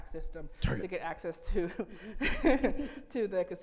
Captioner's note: laughing